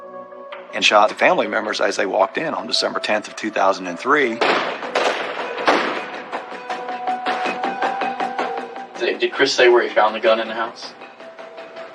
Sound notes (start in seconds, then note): 4.4 gununshshots